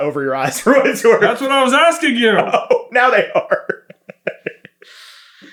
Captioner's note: laughing